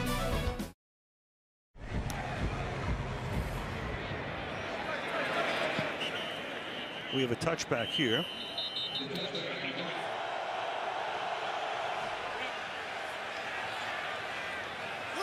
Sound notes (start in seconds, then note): 7.6 whistle